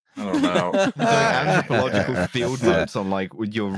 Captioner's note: laughter